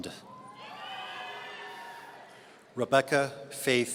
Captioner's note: audience cheering